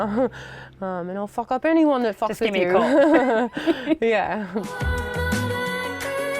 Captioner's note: laughs